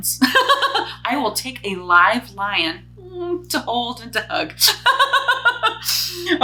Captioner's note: chuckles; chuckles